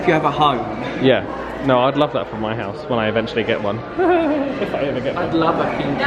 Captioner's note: laughs